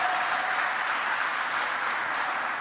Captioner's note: applause